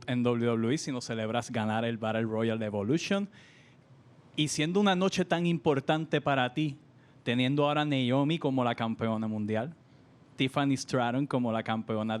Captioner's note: speaking spanish